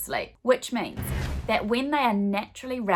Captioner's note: swooshing